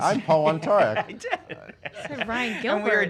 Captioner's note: laughs